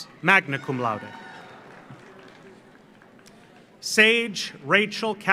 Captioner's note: audience cheers; audience applauds